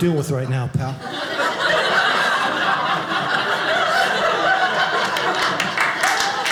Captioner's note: audience laughing; audience applauding